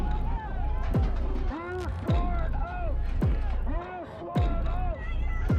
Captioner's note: crowd and officers yelling